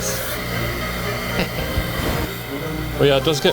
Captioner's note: playful music continues; steam hissing